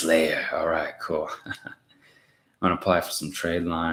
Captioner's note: laughs